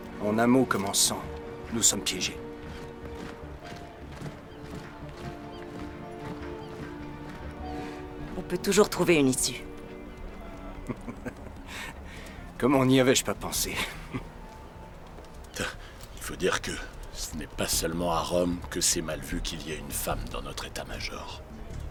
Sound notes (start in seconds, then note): 2.3 soldiers footsteps thudding; 3.3 gentle pensive music; 13.6 scoffs; 14.7 chuckles